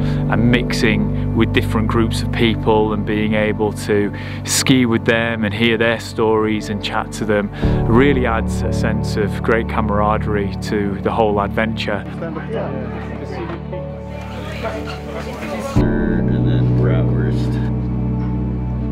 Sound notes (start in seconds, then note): 11.4 people chattering; 14.0 gentle music